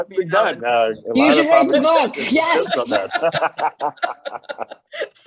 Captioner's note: laughs